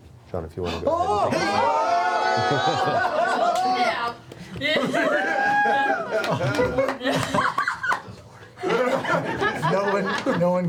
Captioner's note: cheering